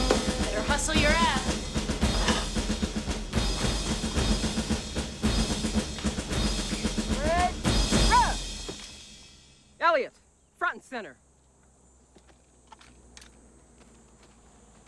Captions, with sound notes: BETTER HUSTLE YOUR ASS. [ Shouts Command ] ELLIOT. FRONT AND CENTER.